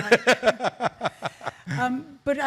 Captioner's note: laughing